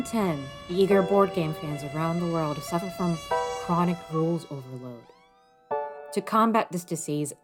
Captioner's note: ambulance fading away